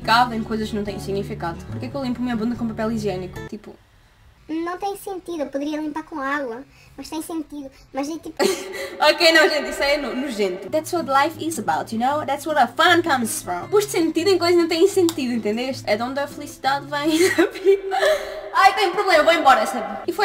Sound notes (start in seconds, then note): 17.1 laughter